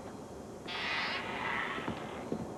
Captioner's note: door creaks